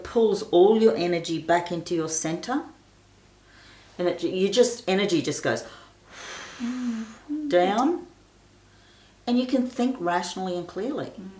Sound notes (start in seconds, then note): 5.7 exhaling